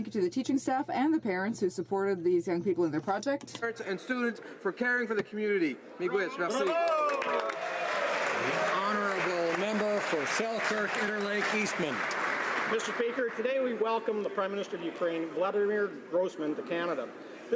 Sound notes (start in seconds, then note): 11.8 some Applause